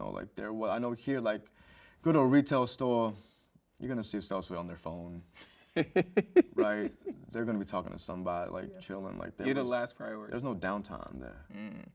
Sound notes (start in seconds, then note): 5.8 host chuckles